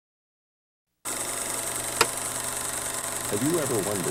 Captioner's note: reel clicks